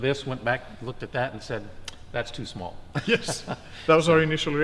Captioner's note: laughs